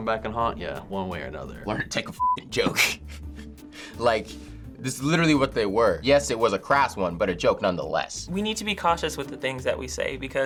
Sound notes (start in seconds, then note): 2.7 chuckles